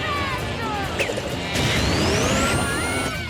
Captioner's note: both screaming